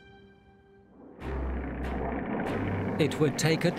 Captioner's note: dramatic music; engine humming